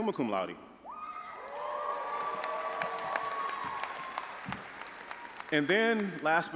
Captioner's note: audience applauding and cheering